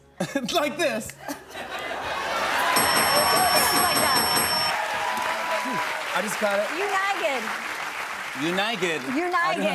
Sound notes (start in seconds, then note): 2.2 cheers and applause; 2.7 bell dings